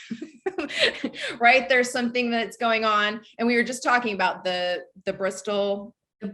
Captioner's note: laughs